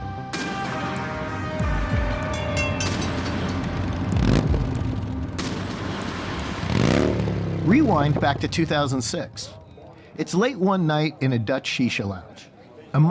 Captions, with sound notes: (engine roaring) Rewind back to 2006. It's late one night in a Dutch shisha lounge.